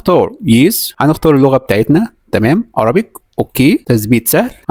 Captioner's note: Arabic